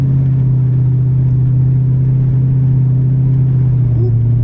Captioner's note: engine revving